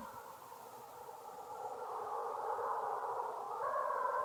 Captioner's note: wind whistling